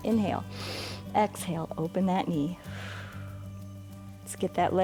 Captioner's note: inhales; exhales